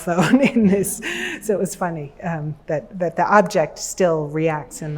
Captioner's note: chuckles